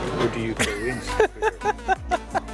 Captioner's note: laughs